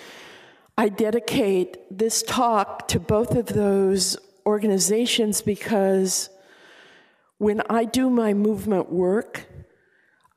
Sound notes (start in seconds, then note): none